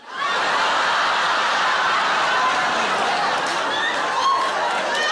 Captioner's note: audience laughing and clapping